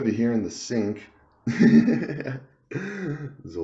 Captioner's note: laughs